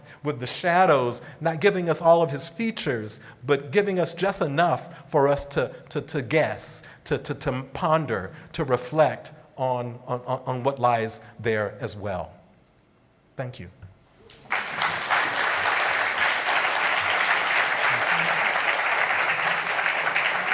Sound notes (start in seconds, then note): 14.2 audience clapping